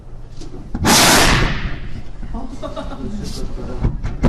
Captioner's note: explosion